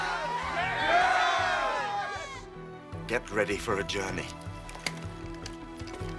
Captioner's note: all shouting